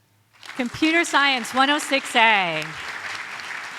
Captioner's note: audience applauds